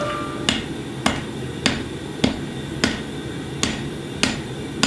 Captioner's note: hammer banging